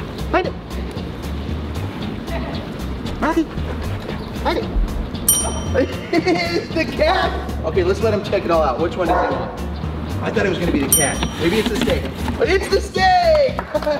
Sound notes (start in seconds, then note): 5.2 bell dings; 5.7 laughs; 13.5 clapping and laughing